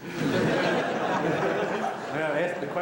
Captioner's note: laughter